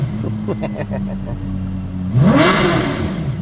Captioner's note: laughs